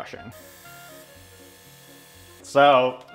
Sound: airbrush humming

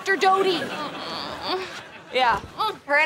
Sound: moaning

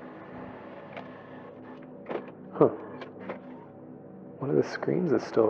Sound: film reel sound

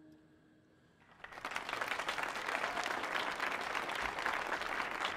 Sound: audience applauding

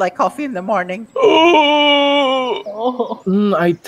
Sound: unholy wailing

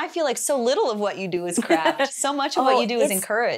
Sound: laughs

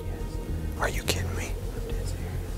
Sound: whispering

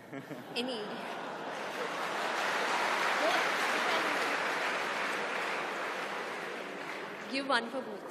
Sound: laughter/Applause

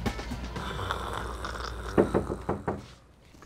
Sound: snoring; knocking at door

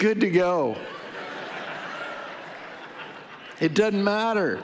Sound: audience laughing

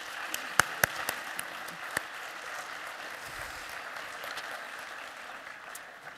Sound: applause

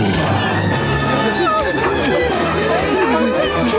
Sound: whimpering

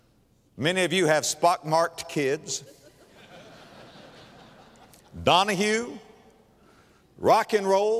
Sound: audience laughter

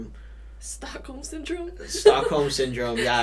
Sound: laughs

